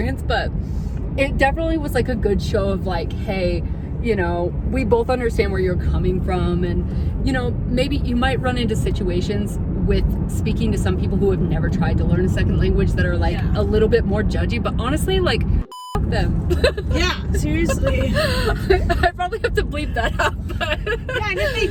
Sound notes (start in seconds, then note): 15.6 beep; 16.4 laughs